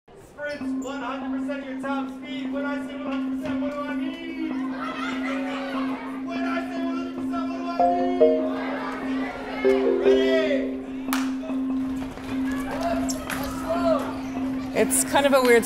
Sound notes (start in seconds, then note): 11.0 hands clapping